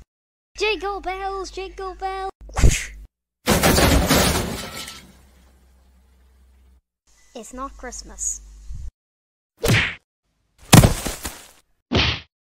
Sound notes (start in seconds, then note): 3.4 crash